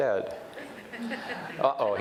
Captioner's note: audience chuckles